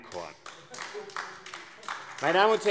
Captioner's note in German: Beifall AfD